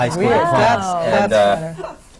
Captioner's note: laughter